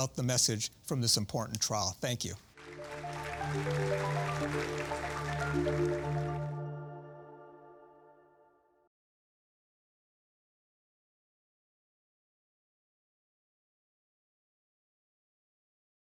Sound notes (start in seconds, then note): 2.0 audience clapping; 2.6 light music